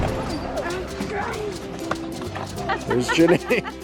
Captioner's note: children chattering